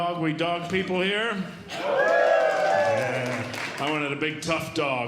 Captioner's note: audience Cheering